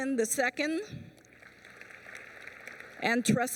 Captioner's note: applause